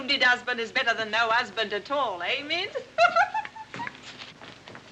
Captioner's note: laughs